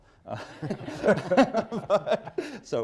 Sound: laughter

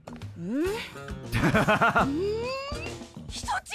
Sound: laughs

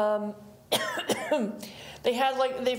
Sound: presenter coughing

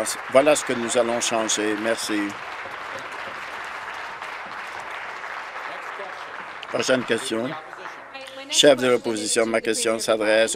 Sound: applause

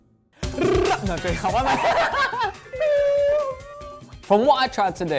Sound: upbeat jazz music; laughing

